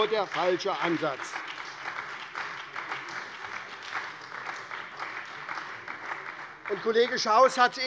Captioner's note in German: Beifall bei der SPD